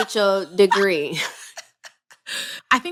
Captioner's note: laughter